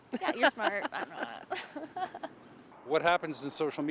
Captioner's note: laughing